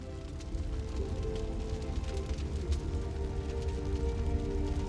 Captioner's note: fire crackling